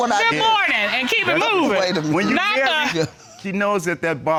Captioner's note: laughs